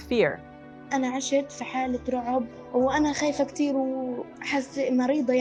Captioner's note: speaking in foreign language